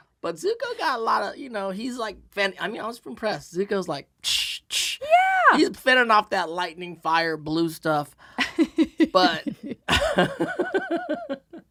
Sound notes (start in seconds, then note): 4.3 making fight sounds; 8.9 laughing